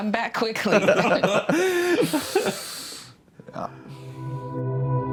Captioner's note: laughter; soft music playing